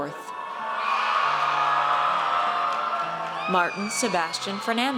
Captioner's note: audience cheers